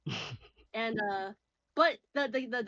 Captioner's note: laughs